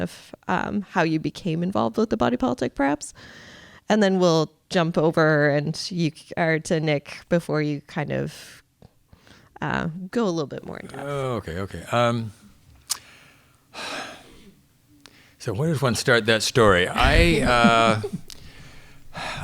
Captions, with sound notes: of how you became involved with the Body Politic perhaps, and then we'll jump over to Nick before you kind of go a little bit more in-depth. - Oh, okay, okay. (sighs) So where did one start that story?